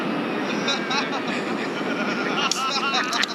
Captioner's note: laughs from background